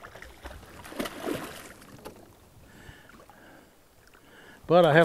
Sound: fish splashing

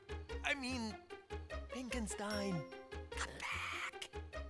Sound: whispering

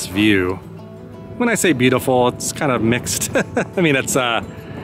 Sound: chuckles

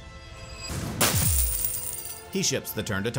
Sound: treasure clatters

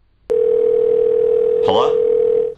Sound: ringing

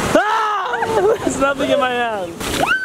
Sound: laughs

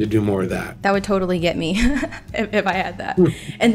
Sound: laughs

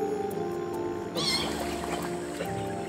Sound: otters squeak

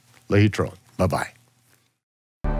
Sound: speaks in foreign language

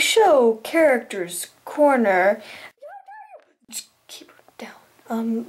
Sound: screaming in background

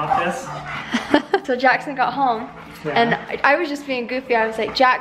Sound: laughs

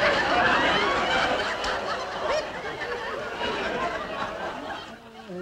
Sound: audience laughing

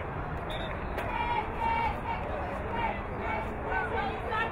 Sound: whistle blowing

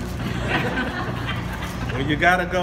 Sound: several laugh

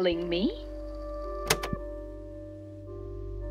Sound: click

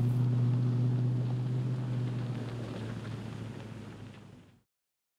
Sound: car trails off into distance

